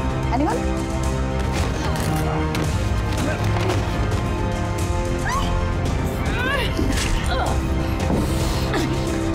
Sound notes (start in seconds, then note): 5.2 Serena screams